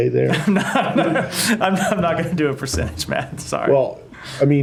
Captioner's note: laughter